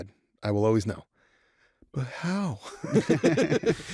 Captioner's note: all laughing